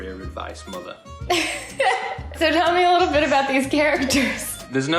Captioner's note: laughs